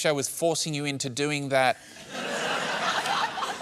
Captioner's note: laughter